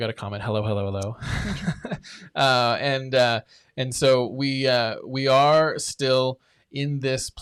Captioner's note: chuckles